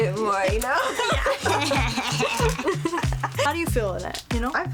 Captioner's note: laughs